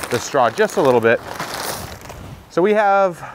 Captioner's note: bag rustles